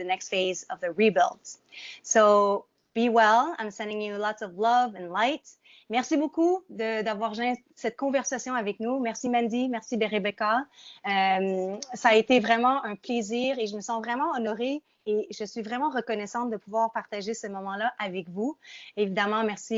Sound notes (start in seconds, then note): 6.1 speaking in French